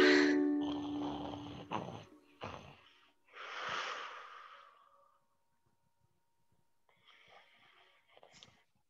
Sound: ukulele strums; bear snores

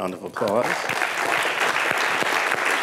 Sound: applause

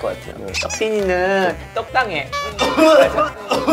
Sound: coughs

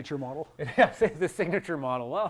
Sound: laughs

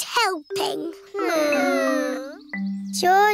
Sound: whining

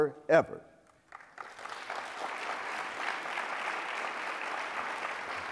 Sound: applause

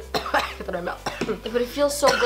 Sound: coughing

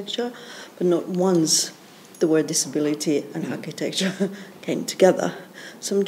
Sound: chuckles

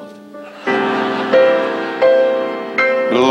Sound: audience laughs; dramatic piano music

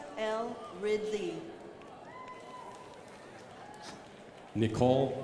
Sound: crowd applauding

